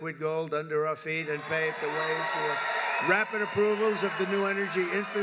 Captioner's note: applause